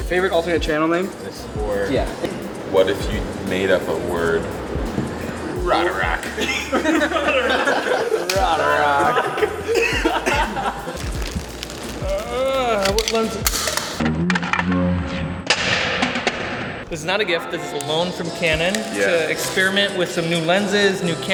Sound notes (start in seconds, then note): 6.2 everyone laughs; 9.5 laughs continue; 14.4 lens cover clattering on the ground